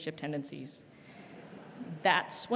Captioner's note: audience laughing